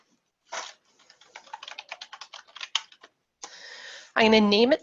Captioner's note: keyboard keys clacking